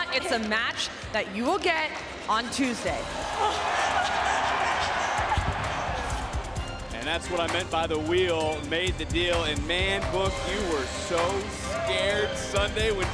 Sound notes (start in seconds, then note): 3.3 Tatum laugh; 4.1 crowd cheering